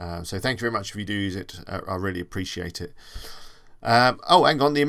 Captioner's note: inhale